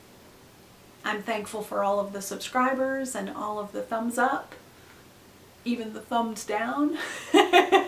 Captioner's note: laughs